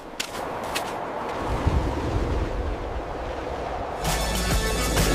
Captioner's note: wind blowing